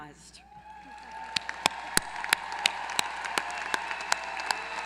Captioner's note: applause